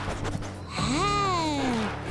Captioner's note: sniffing